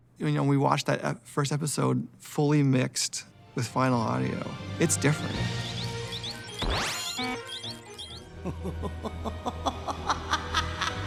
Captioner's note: laughter